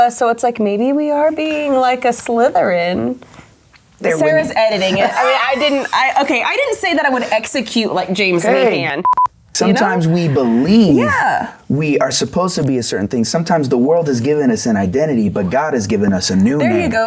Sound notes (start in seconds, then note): 4.7 laughing